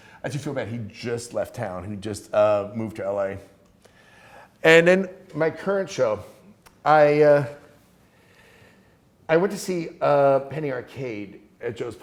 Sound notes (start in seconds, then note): none